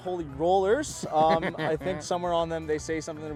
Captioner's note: laughs